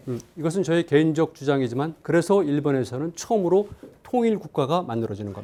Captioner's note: speaking in Korean